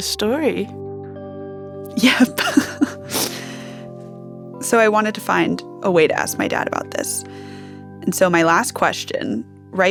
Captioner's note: crying